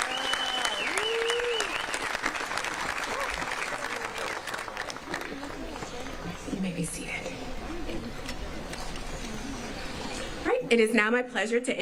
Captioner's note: applause